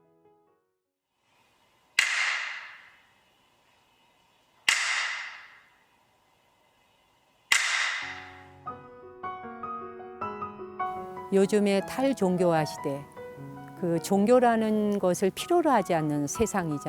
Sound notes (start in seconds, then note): 2.6 buddhist clapping; 8.7 gentle music; 12.1 speaking in Korean